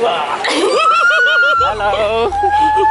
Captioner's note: laughing; screaming